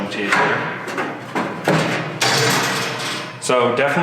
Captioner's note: metal clangs